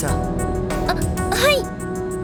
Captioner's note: gasp